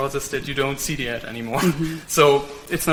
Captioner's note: laughs